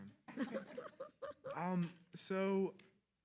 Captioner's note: attendees laughing